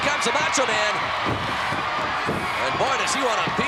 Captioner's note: crowd cheering; feet scampering